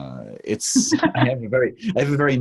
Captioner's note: host laughs